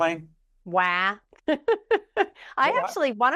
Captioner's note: laughs